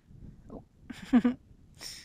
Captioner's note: chuckles